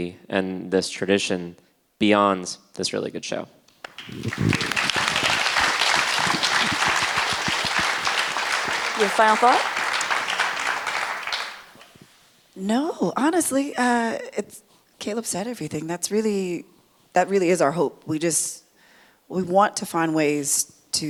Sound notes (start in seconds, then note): 3.8 audience clapping